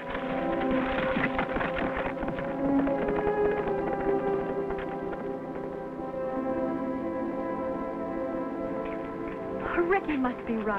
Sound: horse galloping

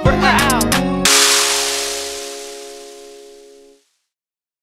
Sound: mic drop

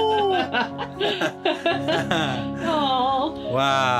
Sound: both laugh

